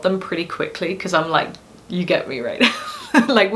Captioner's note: laughs